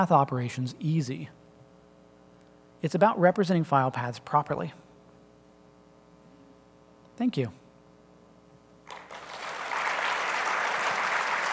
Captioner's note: applause